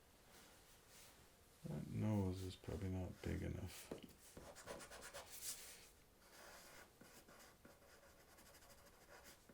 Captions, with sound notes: That nose is probably not big enough. (eraser scratching) (pencil scratching)